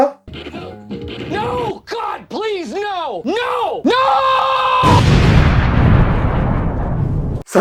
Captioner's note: explosion